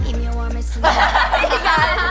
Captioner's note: laughing